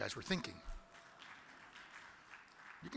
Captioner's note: audience claps